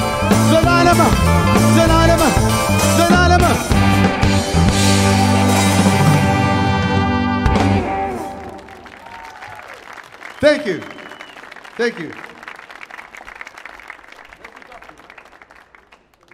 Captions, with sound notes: (audience clapping) (audience cheering) Thank you. Thank you.